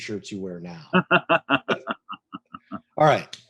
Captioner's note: laughs